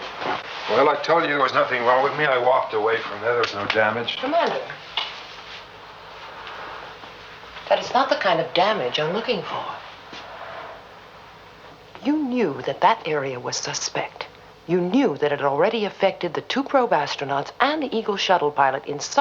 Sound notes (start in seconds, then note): none